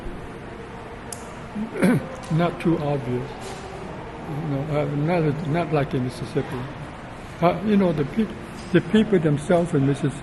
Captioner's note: clears throat